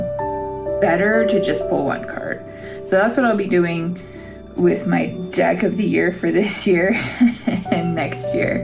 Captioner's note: laugh